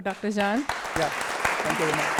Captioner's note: applause